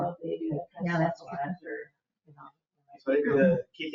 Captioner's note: people speak distantly